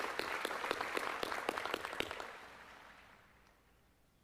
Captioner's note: applause